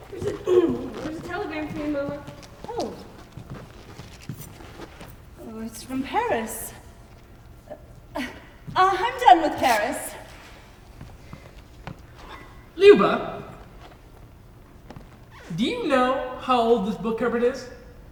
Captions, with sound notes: -[clears throat] There's a telegram for you, Mama. -Oh! It's from Paris. I’m done with Paris. [paper tears] -Lyubov, do you know how old this book cupboard is?